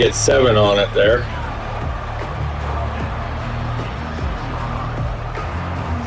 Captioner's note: crowd Noises